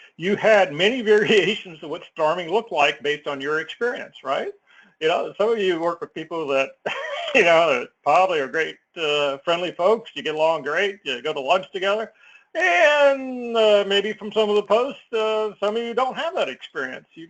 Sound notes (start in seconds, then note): 6.8 laugh